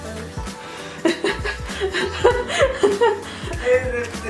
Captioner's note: laughing